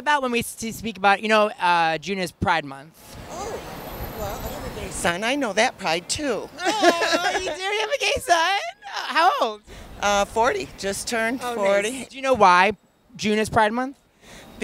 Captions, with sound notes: - What about when we speak about.. You know June is Pride month? - Oh, well I have a gay son. I know that Pride too. (laughs) - Aw, you do have a gay son? How old? - 40, just turned 40. - Do you know why June is Pride month?